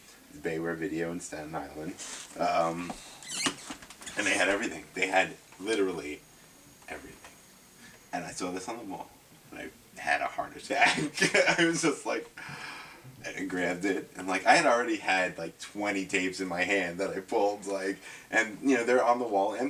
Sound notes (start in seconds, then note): 10.8 laughs; 12.4 gasps